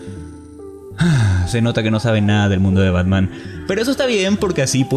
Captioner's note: sights